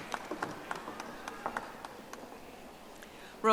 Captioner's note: audience applauding